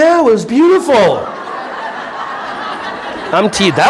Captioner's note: audience laughing